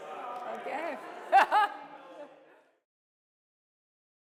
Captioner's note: laughs